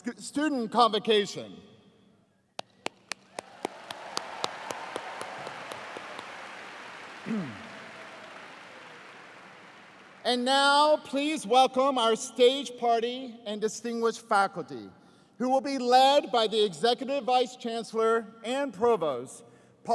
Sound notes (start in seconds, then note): 2.6 applause